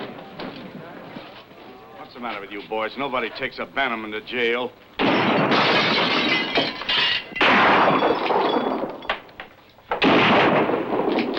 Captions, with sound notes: What's the matter with you boys? Nobody takes a Bannerman to jail. [GUNSHOT] [GLASS SHATTERS] [GUNSHOTS]